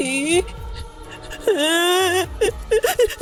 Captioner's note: sobbing